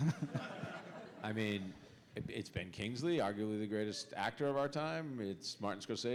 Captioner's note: laughter